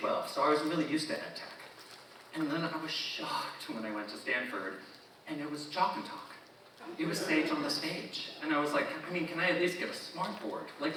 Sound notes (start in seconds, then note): 6.8 audience chuckling